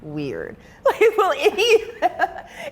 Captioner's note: person laughing